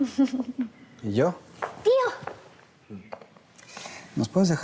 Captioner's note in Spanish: risas